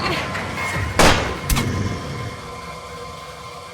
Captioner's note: bullet hits flesh, Leviathan groans